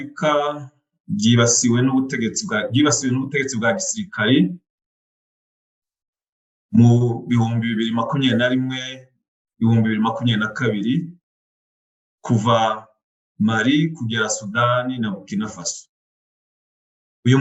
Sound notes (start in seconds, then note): 1.5 speaking in Kinyarwandan